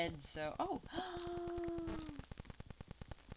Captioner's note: gasps